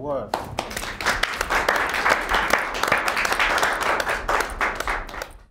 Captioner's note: applauding